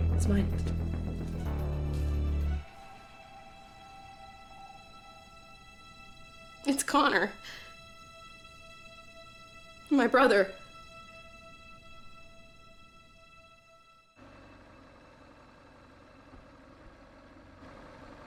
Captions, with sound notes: - It's mine. It's Connor, my brother. (vehicle droning)